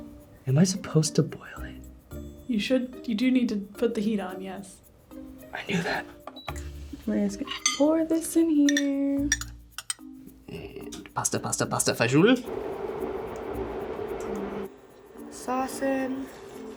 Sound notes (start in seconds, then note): 1.3 whispers; 6.4 beep